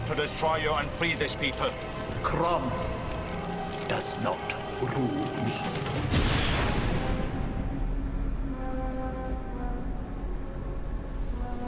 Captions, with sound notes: and to free these people. - Crom does not rule me. (woosh) (somber orchestral music)